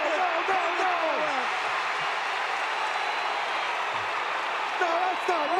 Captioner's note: audience cheering